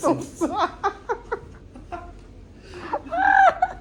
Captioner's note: crying